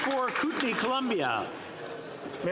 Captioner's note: some Applause